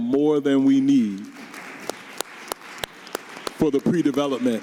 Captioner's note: audience applauding